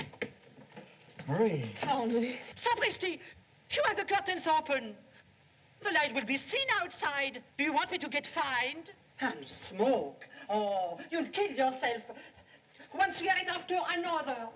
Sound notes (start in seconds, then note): 2.5 French